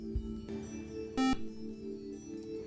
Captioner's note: buzzer